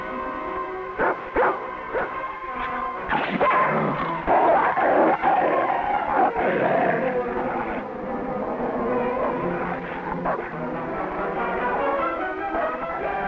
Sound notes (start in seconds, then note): 1.5 Rebel barking and growling